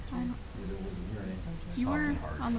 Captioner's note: mumbling